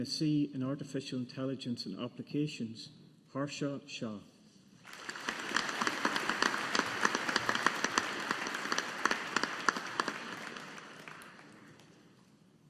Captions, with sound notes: MSc Artificial Intelligence and Applications, Harsha Shah. (AUDIENCE APPLAUDING)